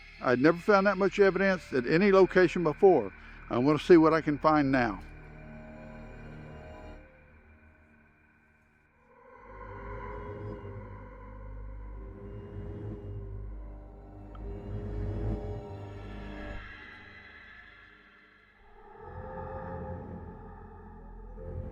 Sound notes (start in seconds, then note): 9.4 mysterious music; 16.7 animal bellowing